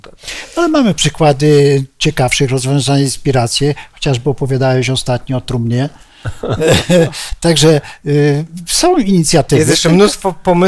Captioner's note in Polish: śmiech